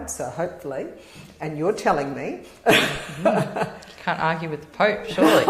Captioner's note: laugh